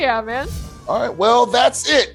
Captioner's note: air whooshing